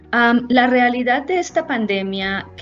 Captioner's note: spanish